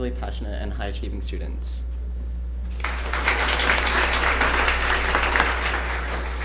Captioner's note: applause